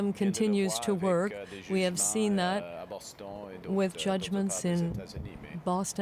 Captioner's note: speaking French